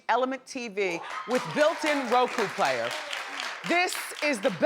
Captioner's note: audience claps